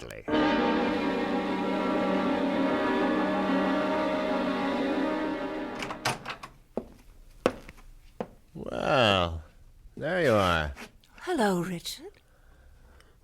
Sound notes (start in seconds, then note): 0.2 dramatic music plays; 5.8 door opens; 6.7 footsteps approaching